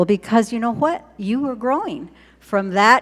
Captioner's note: none